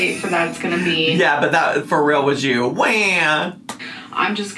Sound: moans

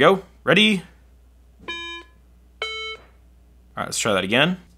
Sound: iPhone beeping

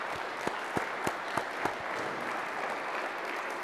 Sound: applause

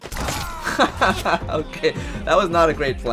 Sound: pained laughter

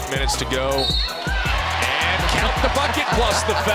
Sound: crowd cheering

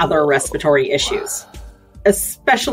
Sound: sniffs

